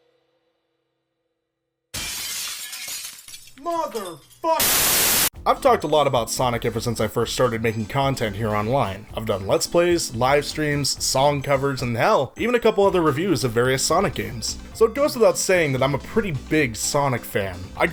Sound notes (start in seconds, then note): 1.9 glass shattering; 4.6 static noise